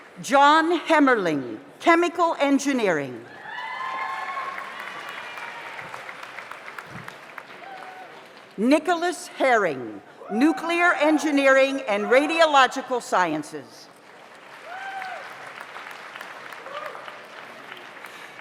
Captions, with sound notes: John Hemmerling, Chemical Engineering. (audience applauds) (audience cheers) Nicholas Herring, Nuclear Engineering and Radiological Sciences. (audience applauds)